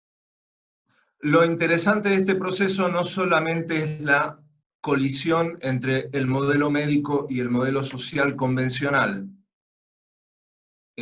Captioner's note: Spanish